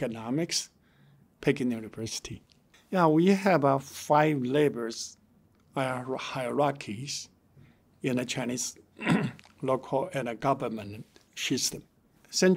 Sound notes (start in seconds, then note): 9.0 clears throat